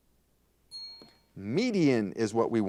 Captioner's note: bell rings